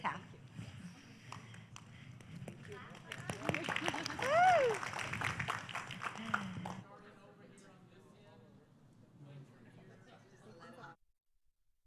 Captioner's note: applause